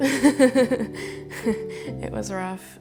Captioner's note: laughing